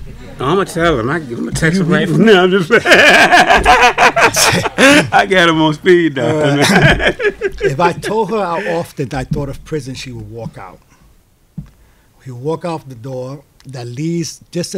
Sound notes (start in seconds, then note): 2.6 laughs